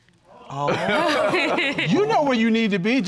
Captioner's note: all laughing